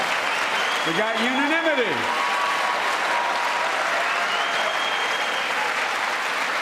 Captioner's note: applause